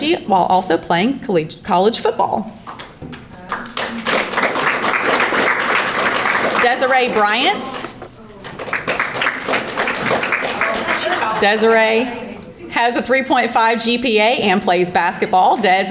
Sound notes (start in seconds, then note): 3.4 audience applauding